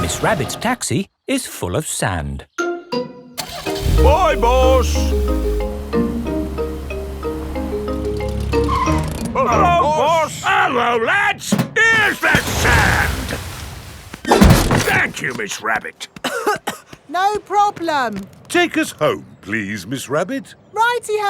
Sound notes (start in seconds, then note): 3.4 car engine starts; 8.6 brakes squeal; 16.2 coughing